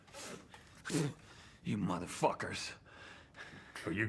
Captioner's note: spitting